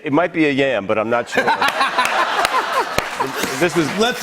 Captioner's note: laughter and applause